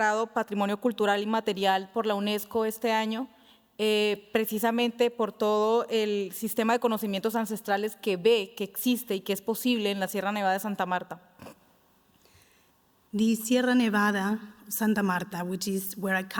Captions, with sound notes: (speaking Spanish) The Sierra Nevada Santa Marta, which is where I